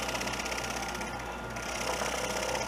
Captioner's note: sawing